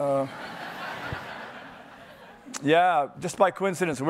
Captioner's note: audience laughing